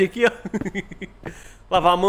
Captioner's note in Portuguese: Risos